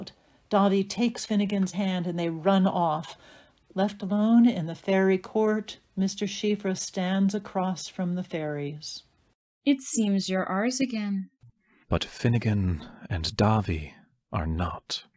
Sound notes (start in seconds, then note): none